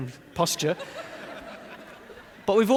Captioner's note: audience laughing